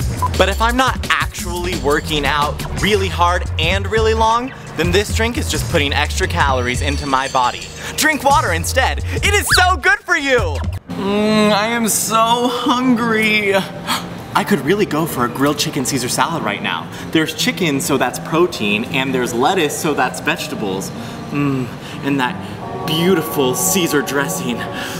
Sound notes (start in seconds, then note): 9.1 moaning; 13.8 gasps